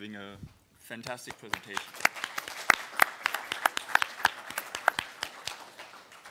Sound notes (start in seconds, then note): 4.4 applause